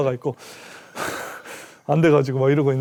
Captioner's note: huff Huff